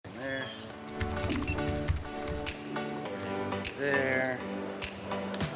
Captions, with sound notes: - There. (soft music) (keyboard clacking) There.